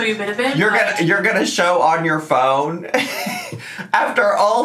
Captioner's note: laughs